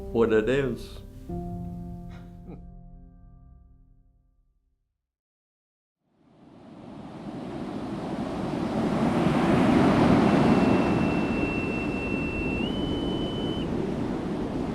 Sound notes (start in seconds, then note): 1.3 laughs; 6.2 ocean sounds; 9.4 boatswains whistle